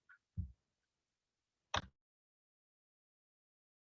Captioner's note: keyboard sound; no audio